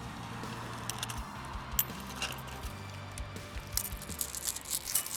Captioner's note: chain clinking